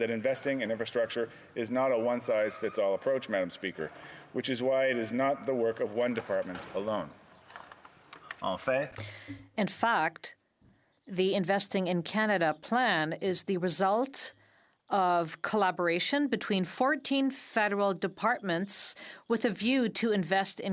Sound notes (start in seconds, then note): 14.0 speaking in French